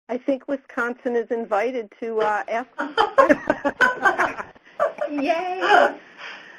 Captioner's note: laughter